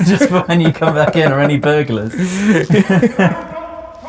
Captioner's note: laughing